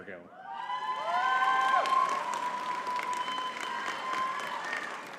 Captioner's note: audience cheering and clapping